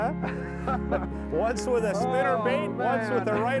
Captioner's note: laughing